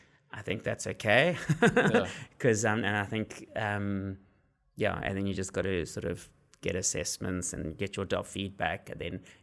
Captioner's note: laugh